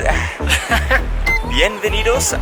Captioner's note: laughter